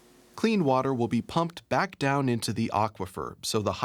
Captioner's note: voiceover